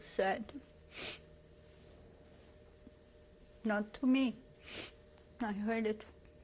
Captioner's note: pauses for 3 seconds